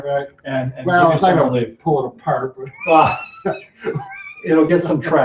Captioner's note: chuckles